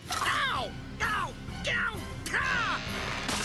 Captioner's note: continues screaming in pain